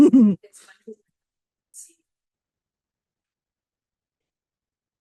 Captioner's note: person laughing